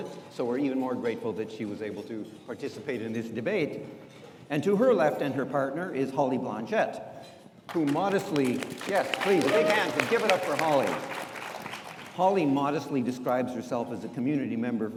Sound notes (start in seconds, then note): 7.7 audience applauds